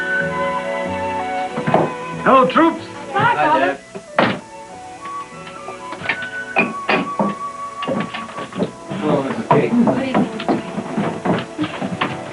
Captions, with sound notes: Hello, troops! --Hi, Father! --Hi, Dad. [door closing] [dishes clinking] --Hello, Mrs. Cayton! --Good evening.